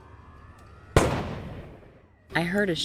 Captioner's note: gun fires